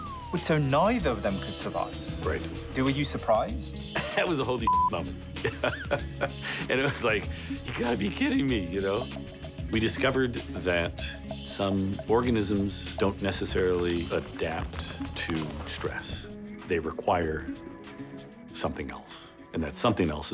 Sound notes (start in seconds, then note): 5.4 laughter